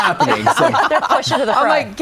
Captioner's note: guests laughing